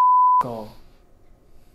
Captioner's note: beep